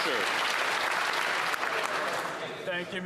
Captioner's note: some Applause